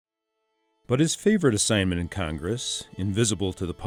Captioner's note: voiceover